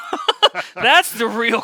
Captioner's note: laughing